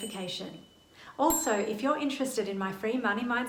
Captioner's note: bell rings; bell dings